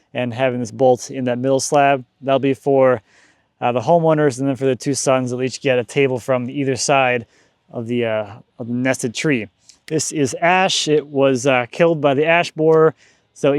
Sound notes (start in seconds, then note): none